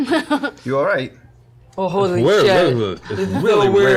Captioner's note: slurring